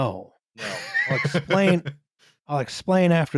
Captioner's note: laughs